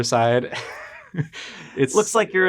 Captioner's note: laughs